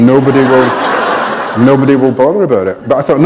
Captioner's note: laughter